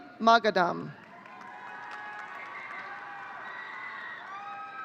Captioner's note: audience cheering